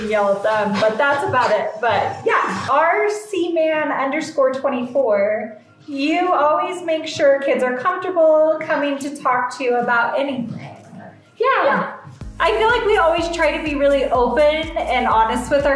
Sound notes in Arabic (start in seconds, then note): none